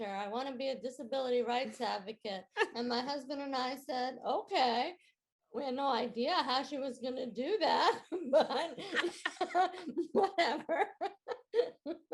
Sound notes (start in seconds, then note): 2.6 chuckling; 8.2 chuckling